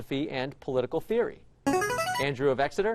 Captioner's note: chiming